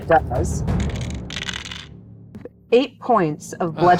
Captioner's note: dice clinks